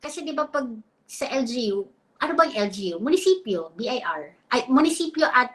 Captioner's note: speaks in Filipino